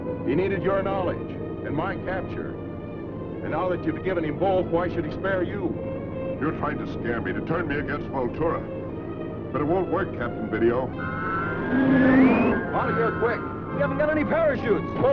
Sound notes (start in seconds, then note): 10.9 squealing